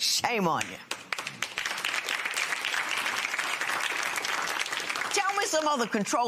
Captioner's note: applause